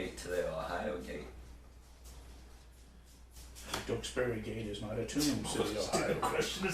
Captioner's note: laughinh; laughing